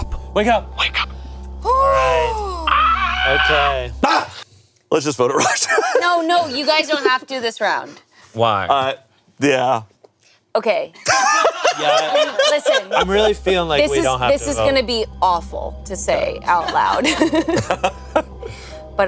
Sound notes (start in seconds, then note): 3.7 screams; 3.7 shrieks; 11.0 laughs